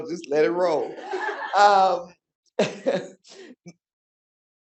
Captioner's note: audience laughing